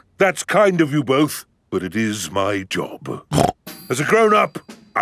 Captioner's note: snorts